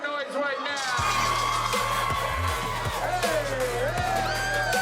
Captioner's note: crowd yells; upbeat music